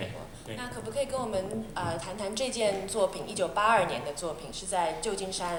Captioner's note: Mandarin